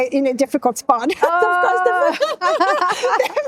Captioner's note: laughing